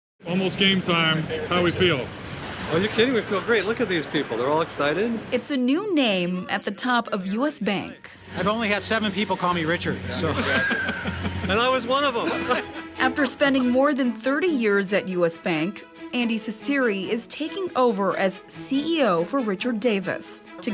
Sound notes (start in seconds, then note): 10.2 laughter